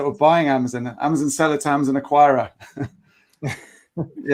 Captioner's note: chuckling